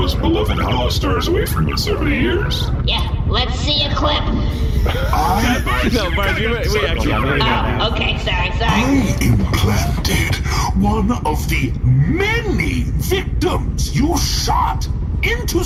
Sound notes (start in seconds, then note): 7.1 dissuading murmurs